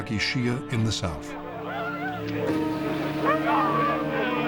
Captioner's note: people screaming